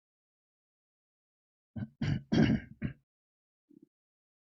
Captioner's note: instructor, clears throat